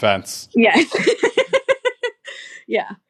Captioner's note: laughing